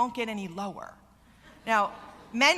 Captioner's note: laughter